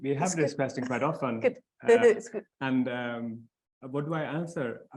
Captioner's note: laughs